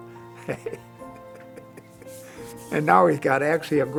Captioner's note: laughs